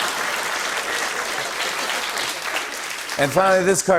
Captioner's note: laughter and applause; applause continues